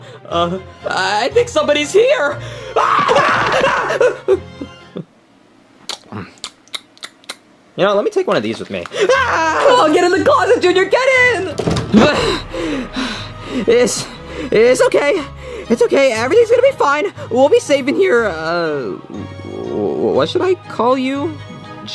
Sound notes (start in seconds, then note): 2.7 screams; 5.8 munches; 9.1 screams; 10.8 dramatic music; 11.4 door bangs; 13.3 panting